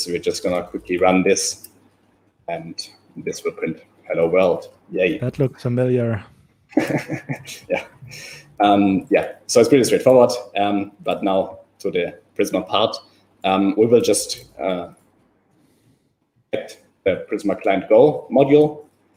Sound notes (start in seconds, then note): 6.7 laughs